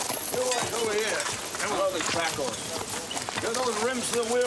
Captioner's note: men chattering